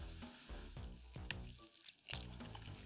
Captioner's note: crack